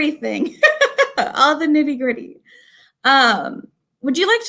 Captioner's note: laughter